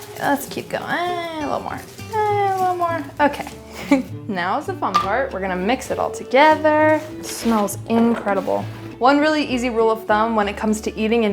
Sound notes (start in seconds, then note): 3.7 chuckles